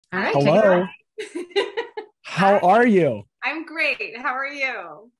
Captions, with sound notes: - Hi Terra. (laughs) - Hello. - How are you? - I'm great, and how are you?